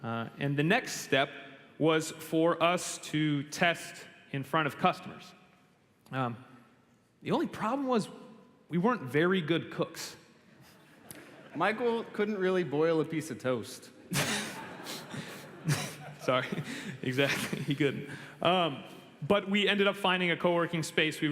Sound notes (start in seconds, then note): 14.0 laughter; 16.9 chuckles